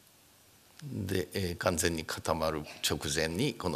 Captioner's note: speaking japanese